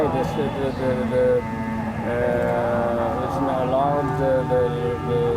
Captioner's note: stammers for words